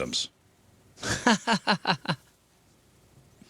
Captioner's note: laughing